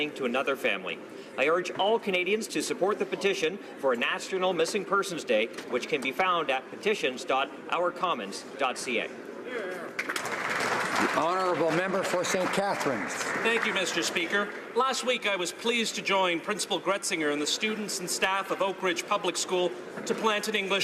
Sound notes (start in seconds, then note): 14.1 some Applause